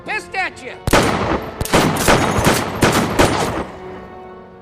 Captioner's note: gun firing